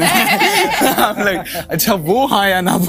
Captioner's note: laughter